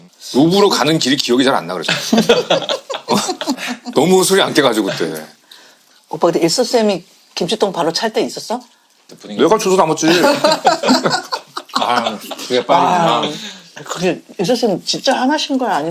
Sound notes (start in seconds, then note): 10.0 laughing